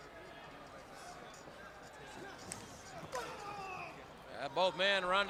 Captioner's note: crowd chatter